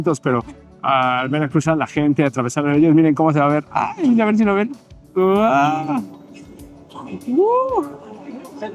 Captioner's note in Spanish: gemido